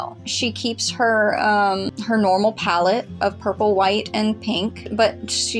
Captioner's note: none